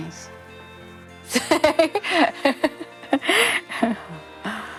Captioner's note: laughs